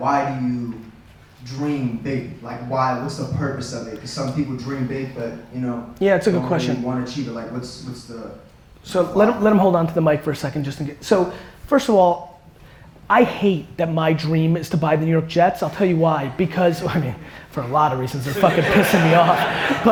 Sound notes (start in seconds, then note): 18.3 chuckles